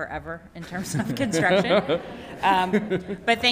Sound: attendees laughing

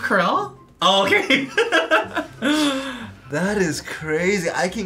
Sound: laughs

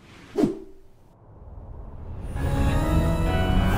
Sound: screen wipe whooshes; spooky music

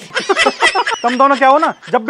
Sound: laughs

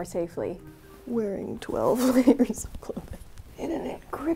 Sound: while laughing

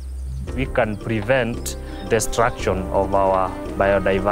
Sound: vultures chirping

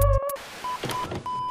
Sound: VHS Sounds

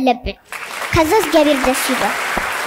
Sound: applause

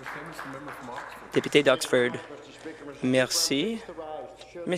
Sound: applause

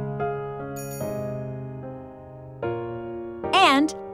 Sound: bell chimes

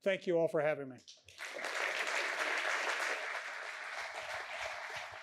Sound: applause

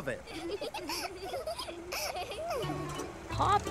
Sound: giggling

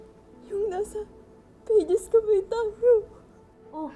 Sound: crying

